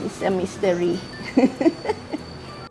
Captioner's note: laughs